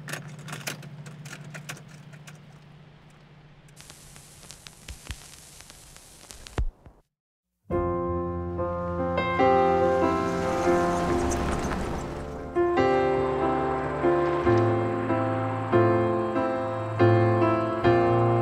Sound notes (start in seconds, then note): 0.0 door opening; 0.1 mechanism engaging; 3.4 static hissing; 10.0 vehicle approaching; 12.7 wistful music continues